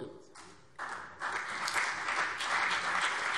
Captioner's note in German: Beifall CDU und BÜNDNIS 90/DIE GRÜNEN